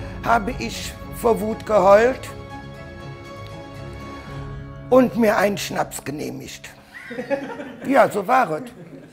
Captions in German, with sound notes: habe ich vor Wut geheult. (Unruhige Musik) Und mir einen Schnaps genehmigt. (Lachen) ja, so war et.